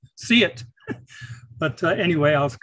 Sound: chuckles

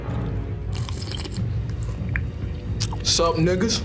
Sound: Mackie Malone slurping food

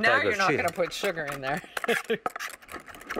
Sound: laughs

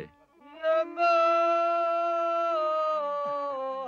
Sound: chanting in foreign language

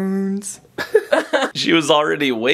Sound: laughter

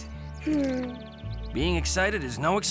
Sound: sighs

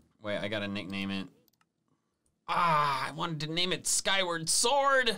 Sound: none

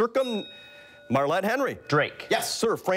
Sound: bell rings

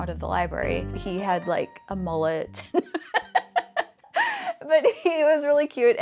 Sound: laughing

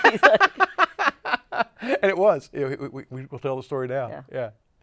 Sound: laughs

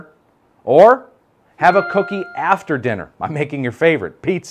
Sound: ding

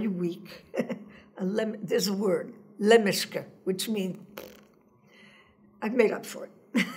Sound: blows raspberry

